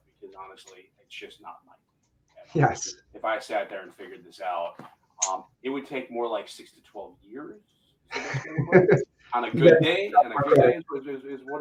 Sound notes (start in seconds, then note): 1.6 voice muffling; 7.9 voice muffling; 8.1 laughing